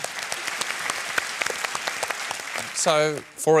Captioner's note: applause